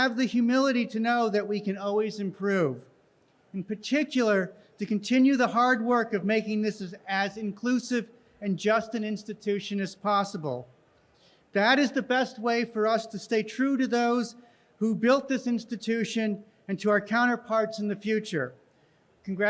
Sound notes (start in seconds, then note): none